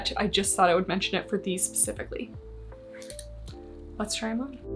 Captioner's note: hangers clack